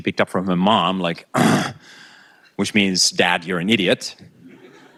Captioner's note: grunting